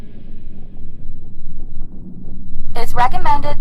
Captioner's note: ominous sounds